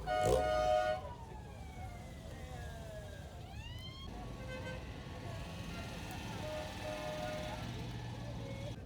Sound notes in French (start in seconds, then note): 0.0 Klaxon; 5.3 Klaxon